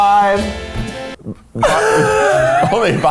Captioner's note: laughing